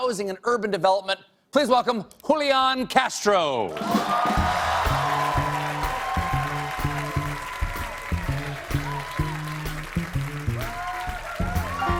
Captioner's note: cheers and applause